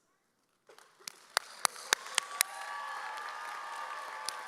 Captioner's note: audience cheers